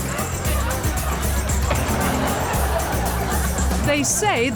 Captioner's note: audience laughs